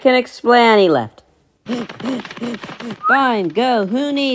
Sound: panting

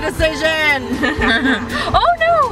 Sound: laugh

